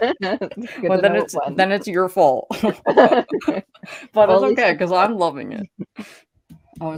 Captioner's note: laughing